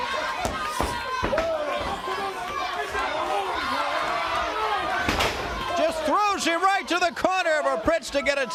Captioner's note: crowd cheering; crowd chatter